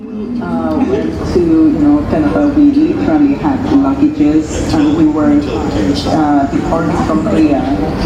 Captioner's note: female voice in English